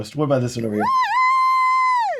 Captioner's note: crowd cheering